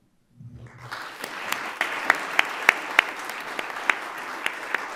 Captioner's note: everyone applauding